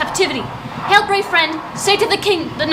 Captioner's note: thunder clap